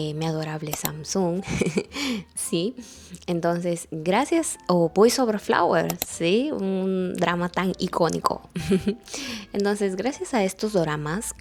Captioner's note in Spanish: risas